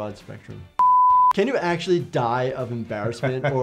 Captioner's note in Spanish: pitidos de transmisión